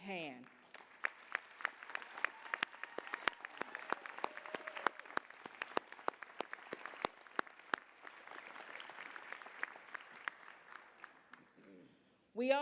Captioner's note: applause, cheers